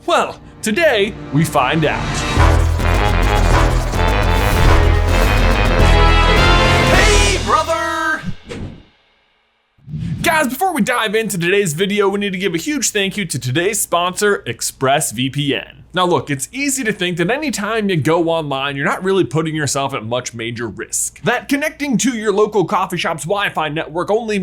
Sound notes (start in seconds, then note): 2.4 upbeat instrumental music; 8.5 logo whooshing